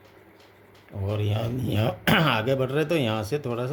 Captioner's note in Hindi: गला साफ़ करने की आवाज़